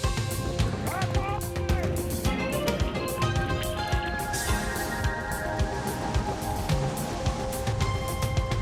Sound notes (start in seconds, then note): 4.8 water rushing